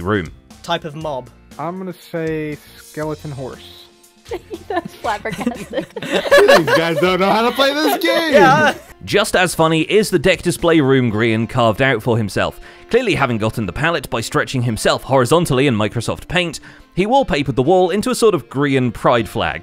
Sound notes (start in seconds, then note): 4.3 laughs; 5.9 shouting; 8.3 all laughing